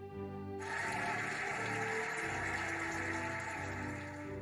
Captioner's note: cheering and applauding